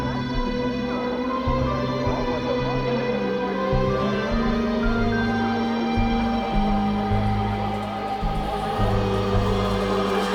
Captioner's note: rising distant chatter